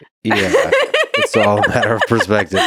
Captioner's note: laughs